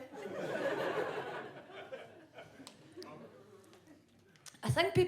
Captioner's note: audience laughs